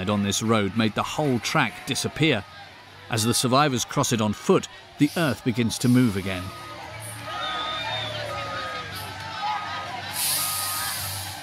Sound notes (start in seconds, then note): 7.6 people screaming